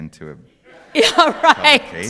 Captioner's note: laughs